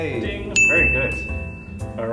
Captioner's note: ding!